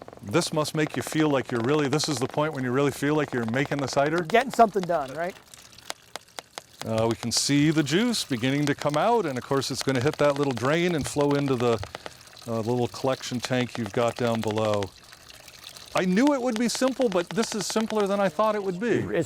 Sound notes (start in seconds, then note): 6.2 liquid dripping